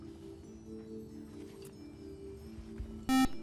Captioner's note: buzzer